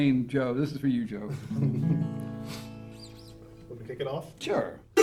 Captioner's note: chuckles; guitar notes ring